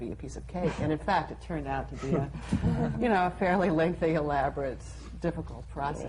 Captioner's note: panel laughs